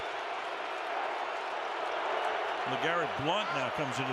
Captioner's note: booing